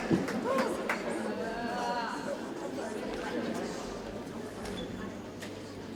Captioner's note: indistinct audience chatter